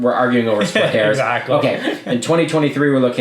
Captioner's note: laughs